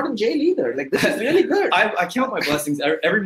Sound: laughter

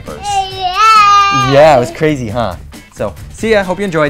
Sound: baby squeals

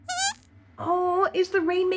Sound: squeaks squeaking

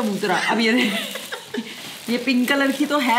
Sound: laughing

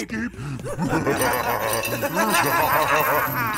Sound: echoing laughter

